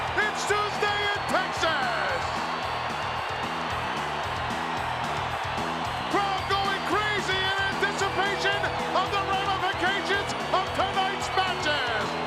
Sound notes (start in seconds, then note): 2.0 crowd cheering; 2.0 upbeat music